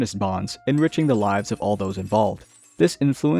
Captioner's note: clinking